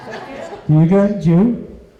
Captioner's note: laughter